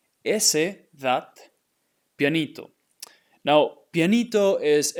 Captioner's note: speaking in Spanish